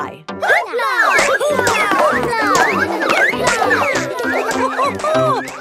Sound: all laugh

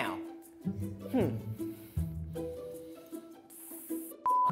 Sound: grunts

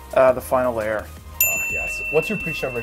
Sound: bell rings

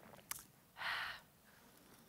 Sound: sighs

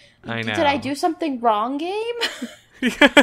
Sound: laughs

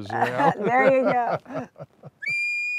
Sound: both laugh

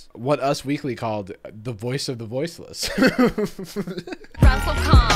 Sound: laughing

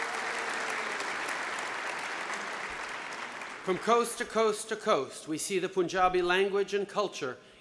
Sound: applause

